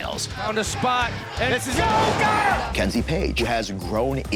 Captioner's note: exclaims